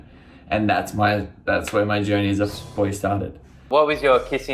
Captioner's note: beep